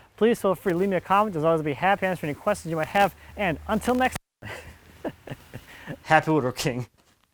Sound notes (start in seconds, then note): 4.4 chuckling; 4.4 laughing